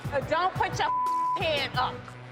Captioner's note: beep